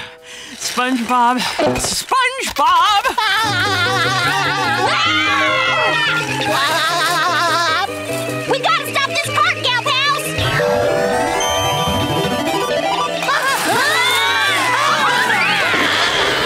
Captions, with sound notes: SpongeBob, SpongeBob! [laughing] [screaming] [laughing] We gotta stop this cart gal pals! [screaming]